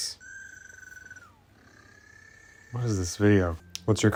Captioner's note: phone ringing